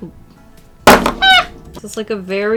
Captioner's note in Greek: Δυνατός κρότος